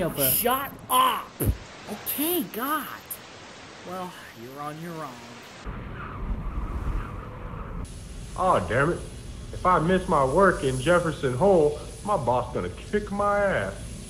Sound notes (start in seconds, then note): 5.4 snow blowing